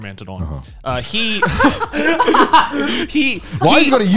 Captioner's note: laughing